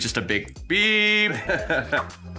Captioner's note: laughing